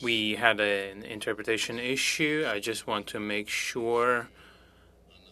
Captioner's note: speaking French